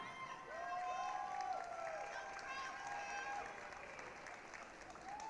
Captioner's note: applause, cheering